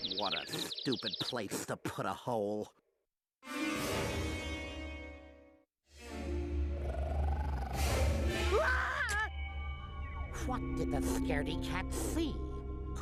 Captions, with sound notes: WHAT A STUPID PLACE TO PUT A HOLE. [growling] WHAT DID THE SCAREDY-CAT SEE?